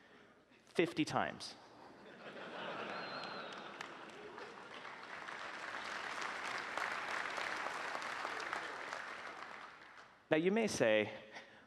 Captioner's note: applause